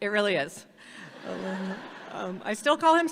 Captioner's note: audience laughs